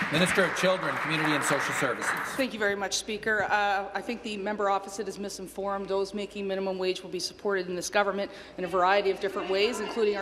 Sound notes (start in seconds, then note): 2.4 applause